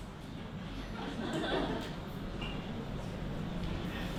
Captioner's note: crowd laughs